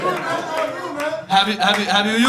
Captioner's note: audience laughing